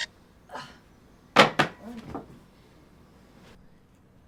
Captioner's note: phone bangs